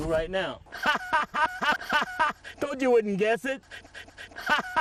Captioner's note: breathes and laughs; laugh